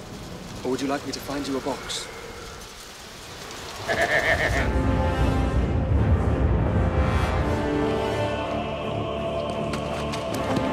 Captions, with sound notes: Or would you like me to find you a box? (laughs) (dramatic music)